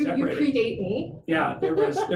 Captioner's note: laughs